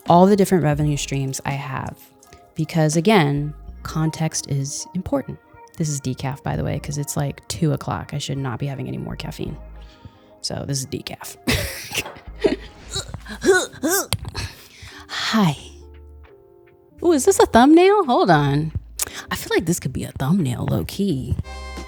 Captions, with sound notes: all the different revenue streams I have. Because again, context is important. This is decaf, by the way, 'cause it's like two o'clock. I should not be having any more caffeine. So this is decaf. (laughs) Hi. Ooh, is this a thumbnail? Hold on. I feel like this could be a thumbnail, low-key.